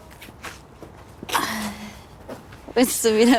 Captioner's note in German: Ächzen